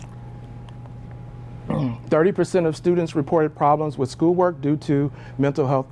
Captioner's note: cough